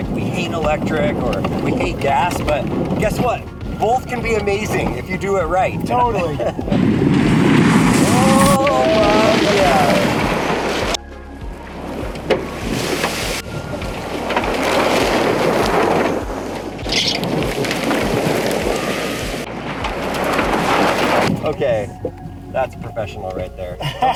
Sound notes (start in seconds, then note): 6.8 truck rumbles; 9.7 truck rumbles; 17.2 tires screech; 18.0 truck rumbles